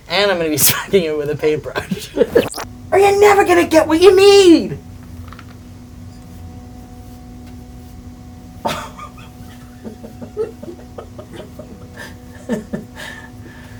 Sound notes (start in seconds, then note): 5.0 laughing